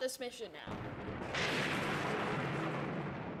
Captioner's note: loud thunderclap